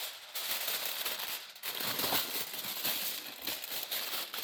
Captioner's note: foil rustling